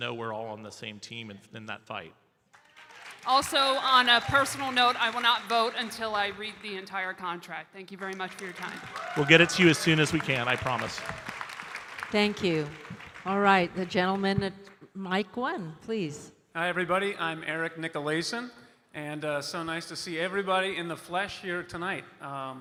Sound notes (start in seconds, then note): 8.0 audience cheering and applauding